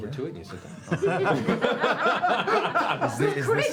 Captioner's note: laughter